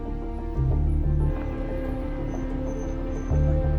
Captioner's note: traffic noise